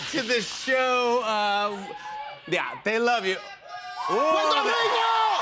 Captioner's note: cheering; cheers and applause